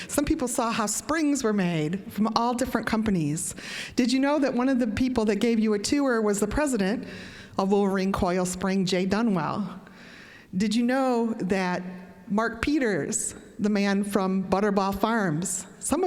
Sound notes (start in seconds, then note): none